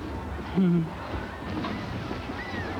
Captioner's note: chuckles